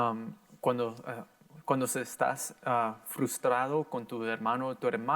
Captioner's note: in foreign language